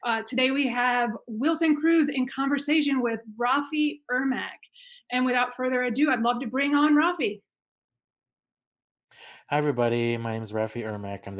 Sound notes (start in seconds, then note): none